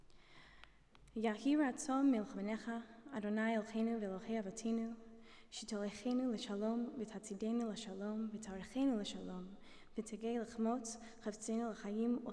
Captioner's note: non-english speech